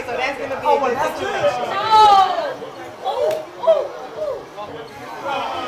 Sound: excited cheering

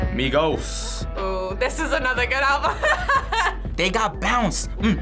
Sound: laughs

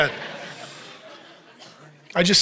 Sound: audience laughing

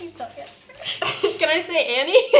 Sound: laughter

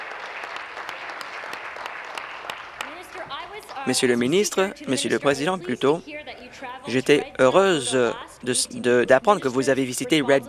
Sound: applause

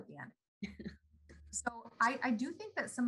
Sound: laughing

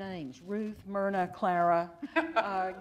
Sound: chuckle

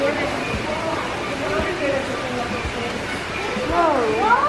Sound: chattering

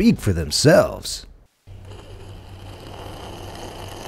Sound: hissing

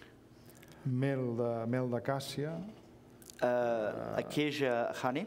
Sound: speaking catalan

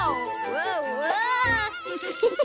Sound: giggles

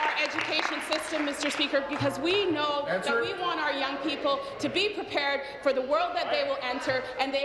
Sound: applause

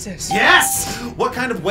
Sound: electronic bell chimes

